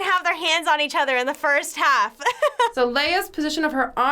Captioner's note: laughs